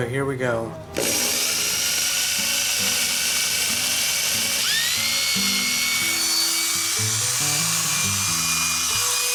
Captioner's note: motor hums